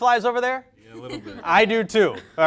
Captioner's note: lady laughing